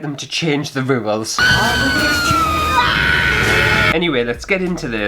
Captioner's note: screaming!